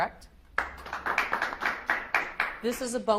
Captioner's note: audience applauds